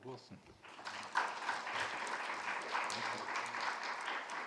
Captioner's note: audience clapping